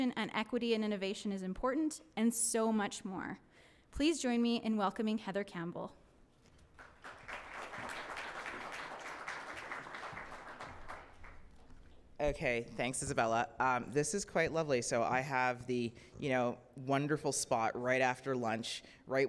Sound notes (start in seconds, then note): 6.6 audience clapping